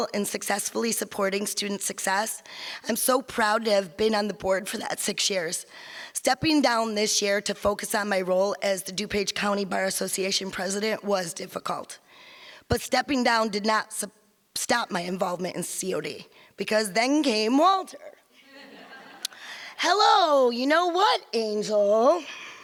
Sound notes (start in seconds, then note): 18.4 audience laughs